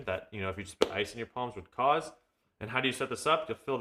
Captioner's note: hands clapping